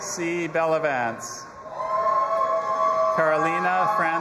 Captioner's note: audience applauding and cheering